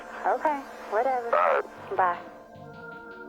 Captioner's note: on phone